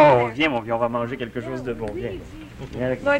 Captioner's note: speaking French